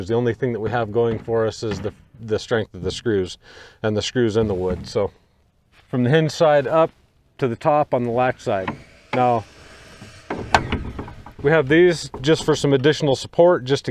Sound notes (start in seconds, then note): 9.4 power saw buzzing